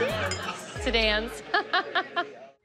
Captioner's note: laughs